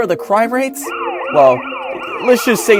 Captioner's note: car siren wailing